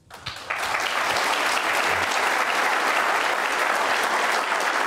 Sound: audience applauding

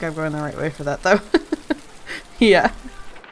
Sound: laughs

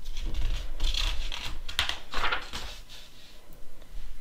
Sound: page flips

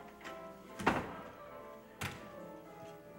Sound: door opens and shuts

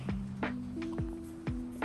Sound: baby hiccups

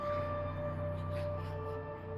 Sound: creepy whispering

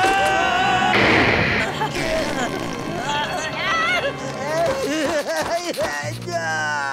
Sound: screaming; groaning

